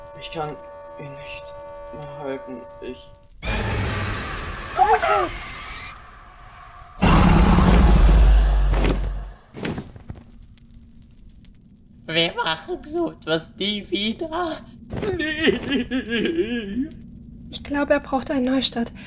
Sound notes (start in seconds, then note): 8.8 wing flap